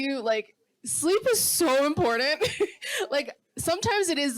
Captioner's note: laughs